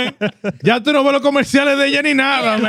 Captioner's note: speaking Spanish